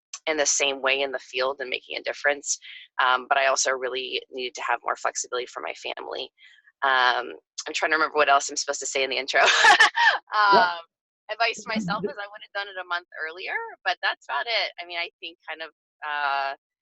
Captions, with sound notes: in the same way in the field, and making a difference. But I also really needed to have more flexibility for my family. I'm trying to remember what else I'm supposed to say in the intro. (laughs) Advice to myself, is I would have done it a month earlier, but that's about it. I mean, I think kind of,